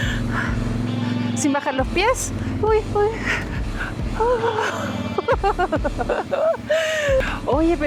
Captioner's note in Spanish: risas